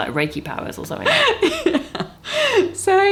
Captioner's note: laughs